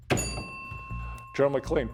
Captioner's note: bell ringing